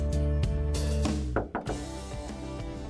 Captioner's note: knocks